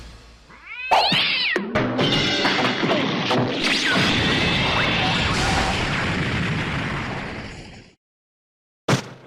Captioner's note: sounds of chaotic battle